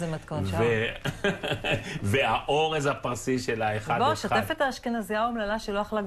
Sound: laughter

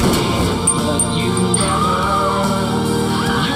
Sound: women screaming

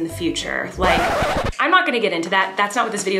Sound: record scratch

